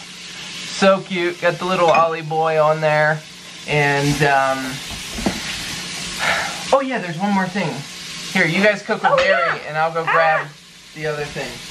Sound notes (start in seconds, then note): 5.9 sigh; 11.5 sizzling